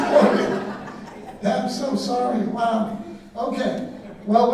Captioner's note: audience laughing